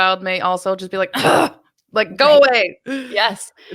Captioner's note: growls